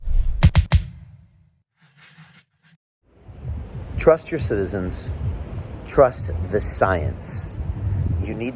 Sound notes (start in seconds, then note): 0.0 logo whooshing